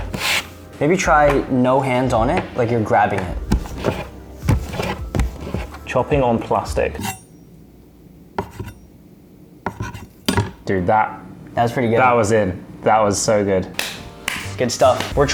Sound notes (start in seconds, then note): 9.7 knife clangs; 10.6 knife shings